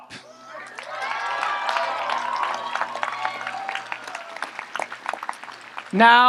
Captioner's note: audience applauds and cheers